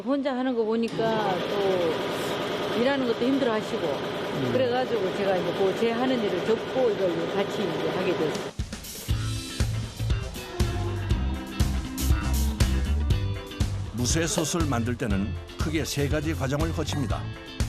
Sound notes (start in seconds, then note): 5.4 food processing